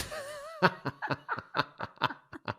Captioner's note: laughs